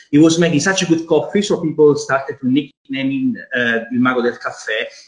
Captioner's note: foreign language